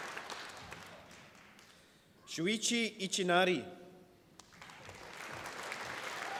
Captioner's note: applause